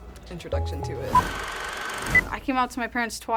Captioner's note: film projector whirring